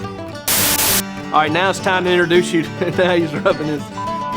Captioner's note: laughs